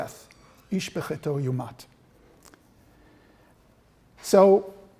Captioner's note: non-english speech